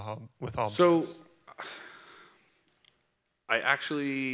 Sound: sighs

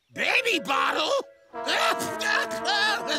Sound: screaming

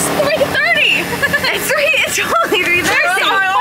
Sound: laughs

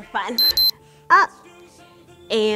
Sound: alarm beeping

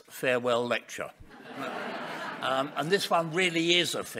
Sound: audience laughing

